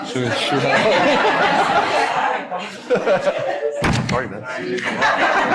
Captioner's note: laughing